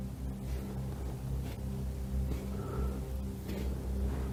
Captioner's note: nieve crujiendo